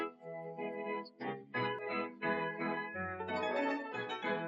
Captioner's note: hoppy laughs